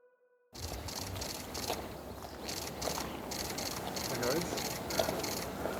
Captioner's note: cameras shuttering